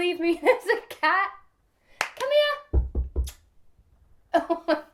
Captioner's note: clap